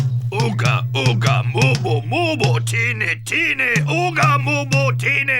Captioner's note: chanting in foreign language